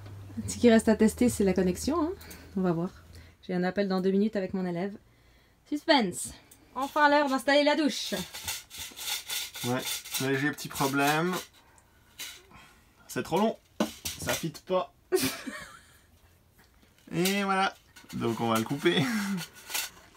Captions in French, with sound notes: Ce qu'il reste à tester, c'est la connexion. On va voir. J'ai un appel dans deux minutes avec mon élève. Suspense! Enfin l'heure d'installer la douche! Ouais, léger petit problème... C'est trop long! Ça fit pas! (rires) Et voilà! Donc on va le couper!